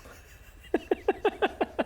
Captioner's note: excited giggles